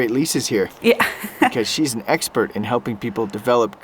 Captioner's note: laughs